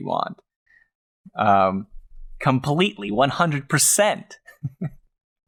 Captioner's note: laughs